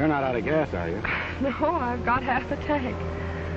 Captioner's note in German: lacht